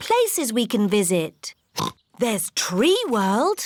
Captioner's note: oinks